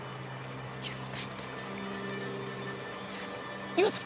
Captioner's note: says softly; says loudly